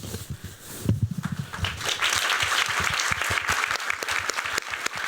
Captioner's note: applause